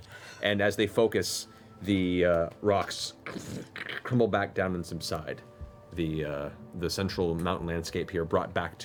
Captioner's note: crumbling noises